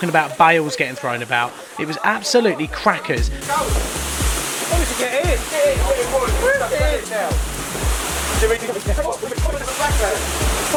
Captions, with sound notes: about bales getting thrown about. It was absolutely crackers! (rain pounding) (all exclaiming at once)